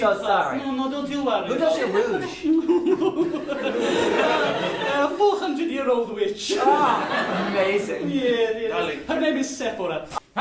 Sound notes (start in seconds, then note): 1.6 giggling